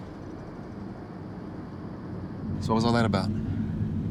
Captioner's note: car zooming